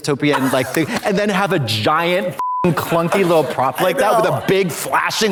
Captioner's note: beep